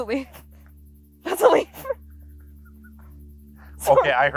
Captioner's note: laughs; laughs